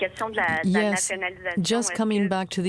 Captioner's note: speaking French